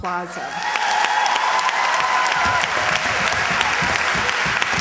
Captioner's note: cheers, applause